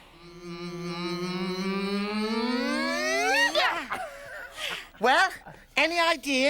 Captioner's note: humming